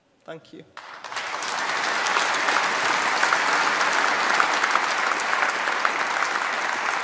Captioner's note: applause